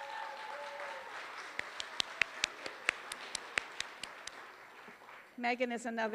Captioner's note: applause